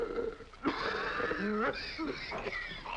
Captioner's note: gasping deeply; coughing dryly